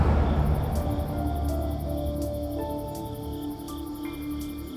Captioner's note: crickets chirping